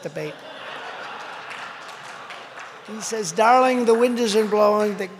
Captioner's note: laughter